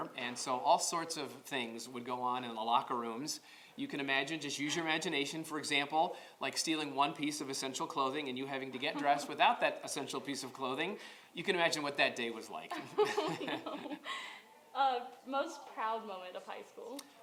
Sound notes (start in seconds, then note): 12.7 laughter